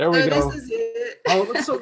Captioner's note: chuckles